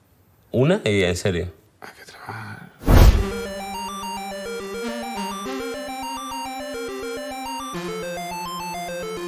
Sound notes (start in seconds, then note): 1.8 whisper; 3.1 video game music